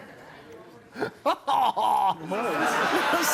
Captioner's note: laughing